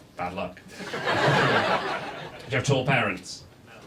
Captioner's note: audience laughs